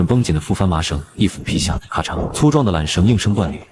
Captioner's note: crack!